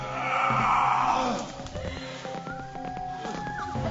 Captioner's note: grunting